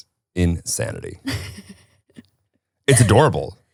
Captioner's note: chuckling